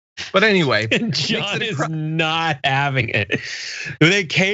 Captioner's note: laugh